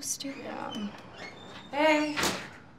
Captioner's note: door creaking